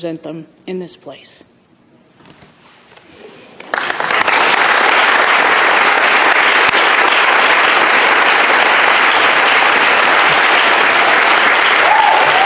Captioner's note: applause